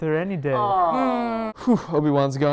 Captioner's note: groans